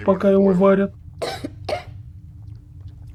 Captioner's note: surprised cough